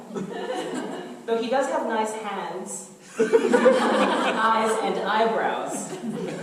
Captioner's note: audience laughter